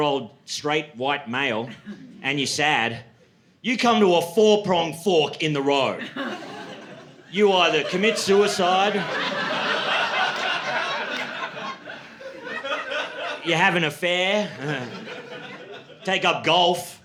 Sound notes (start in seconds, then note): 10.1 laughter